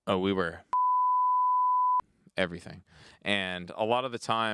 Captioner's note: beep